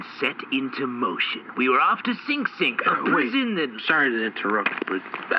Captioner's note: in a low, chill, almost sleepy voice